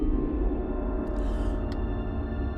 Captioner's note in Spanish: jadeando suavemente